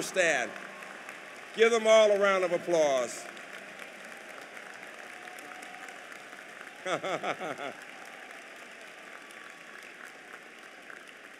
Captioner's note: applause